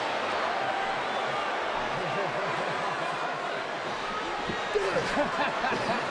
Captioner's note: crowd murmuring continues; Bray laughing